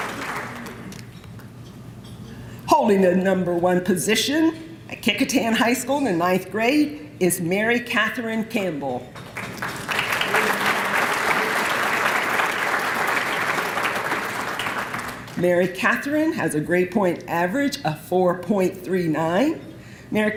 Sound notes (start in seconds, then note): 9.2 applause